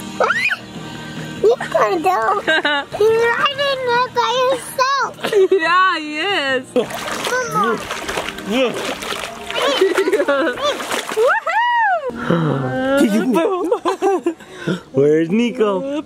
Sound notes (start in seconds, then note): 6.7 water splashing; 13.7 laughing